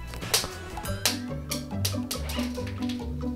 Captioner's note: drops screw and it bounces on the floor; cheerful music